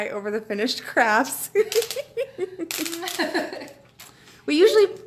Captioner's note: laughing